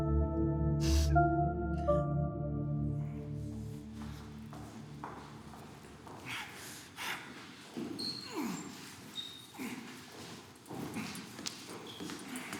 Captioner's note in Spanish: Sollozos